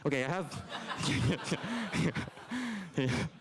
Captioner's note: laughter